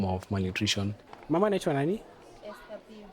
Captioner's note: speaking in foreign language